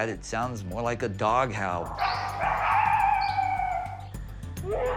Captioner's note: wolf howling; alleged bigfoot roaring